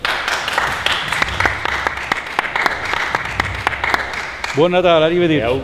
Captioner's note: applause